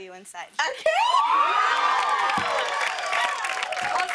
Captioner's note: cheers and applause